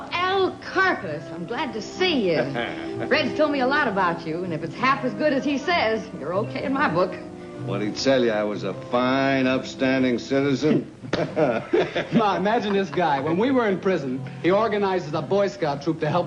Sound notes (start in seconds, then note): 11.0 Al laughs